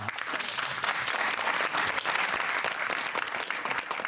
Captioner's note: applause